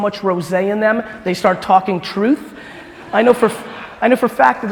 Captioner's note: crowd laughing